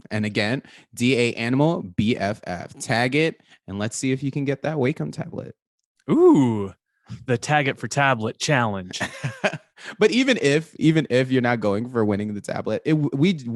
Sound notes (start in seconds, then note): 8.8 laughing